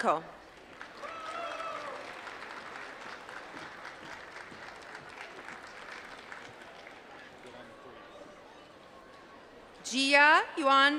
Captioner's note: applause